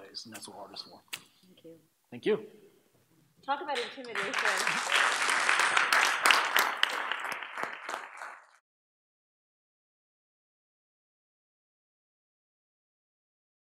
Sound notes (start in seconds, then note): 5.3 applause